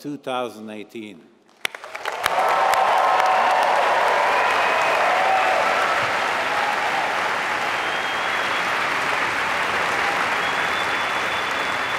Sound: applause

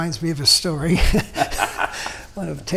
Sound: laughing

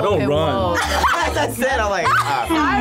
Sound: laughs

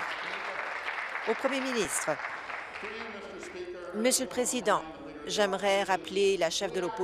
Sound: applause

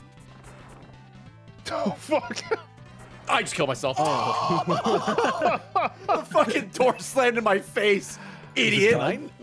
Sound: screams

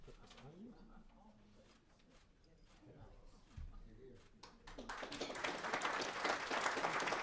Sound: applause

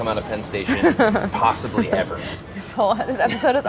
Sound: laughing

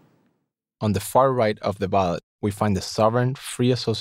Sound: voiceover

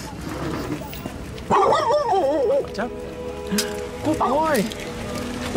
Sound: dog barks

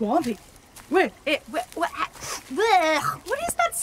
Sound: sniffs, normal voice

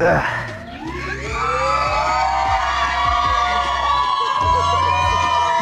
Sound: crowd cheering

